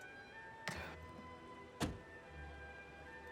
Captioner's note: thud, door shuts